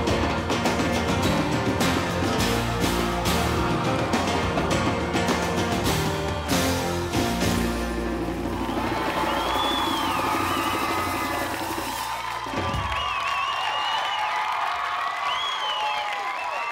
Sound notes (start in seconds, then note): 8.7 audience cheers